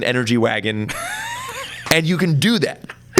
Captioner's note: laughs